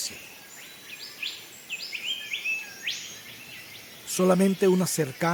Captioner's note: birds chirps